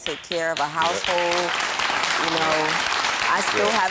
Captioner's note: audience applauds